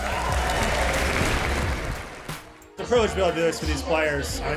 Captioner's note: people clapping